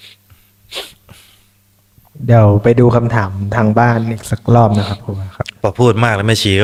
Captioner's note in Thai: เสียงสูดหายใจ